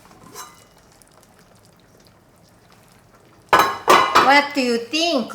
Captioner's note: water boiling